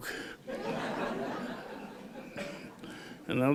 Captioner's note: laughter